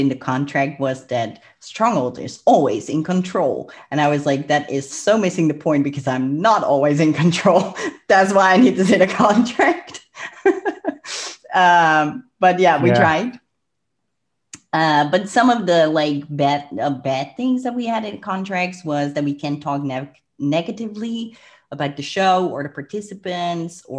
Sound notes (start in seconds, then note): 7.5 laughs; 10.1 laughs; 11.0 breath; 13.1 clicks tongue